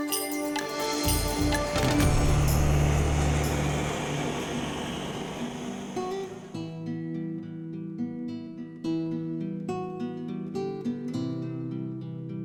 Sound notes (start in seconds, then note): 3.2 torch hissing; 6.4 thoughtful guitar music